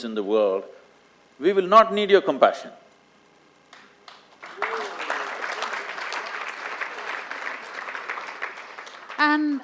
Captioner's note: applause